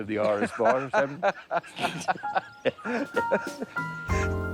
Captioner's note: both laugh